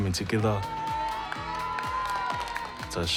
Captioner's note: cheering